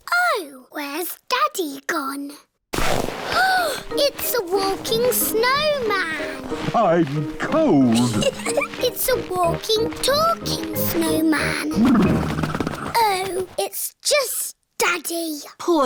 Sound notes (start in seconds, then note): 3.3 gasps; 7.8 laughs